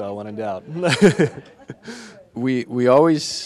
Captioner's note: audience laughing